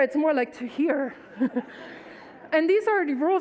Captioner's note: audience laughs